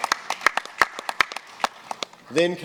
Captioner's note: applause